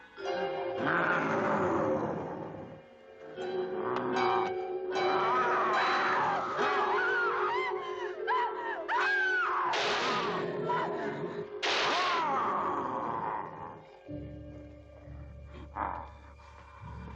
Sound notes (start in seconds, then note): 5.0 Priscilla screams; 9.8 gun banging; 12.0 werewolf growls